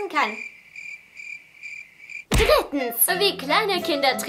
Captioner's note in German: Grillenzirpen; Ruhige Musik